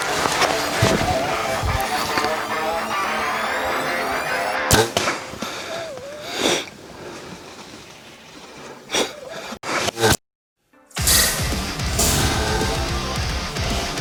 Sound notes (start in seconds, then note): 0.1 bowstring draws; 4.7 arrow flying; 5.6 deer whimpering; 7.1 heavy breathing; 11.0 arrow flying